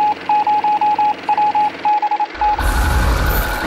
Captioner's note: beeping